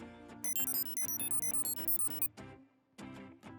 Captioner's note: beeping